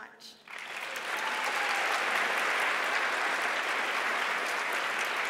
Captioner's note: audience applauds